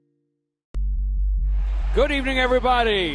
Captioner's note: air whooshing; upbeat music